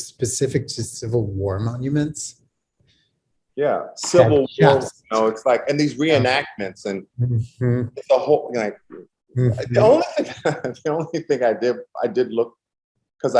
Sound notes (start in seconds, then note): 9.4 laughs